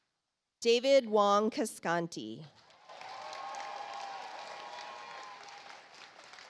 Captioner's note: audience applauds